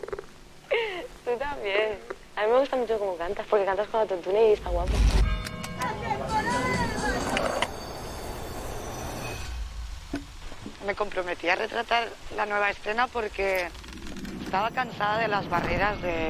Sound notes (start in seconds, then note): 5.8 noises and shouts